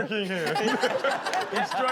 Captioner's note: laughs